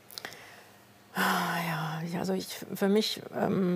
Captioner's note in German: Tiefes Seufzen